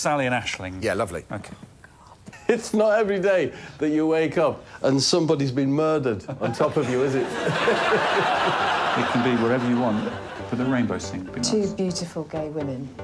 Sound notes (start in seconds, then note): 4.8 audience laughs